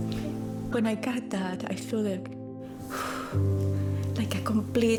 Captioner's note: sighs